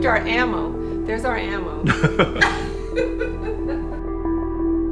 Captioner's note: people laughing; gentle music